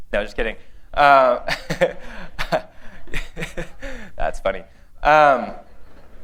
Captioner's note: laughter